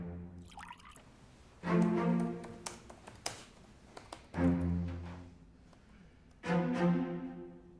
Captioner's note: alcohol sloshing; keyboard keys clacking